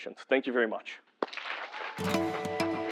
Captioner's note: applause